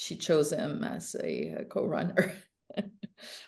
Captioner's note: chuckles